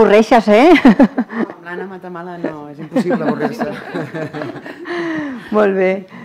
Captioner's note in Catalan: riures